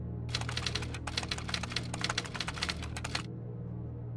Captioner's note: typewriter clicking